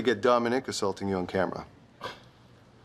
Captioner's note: scoffing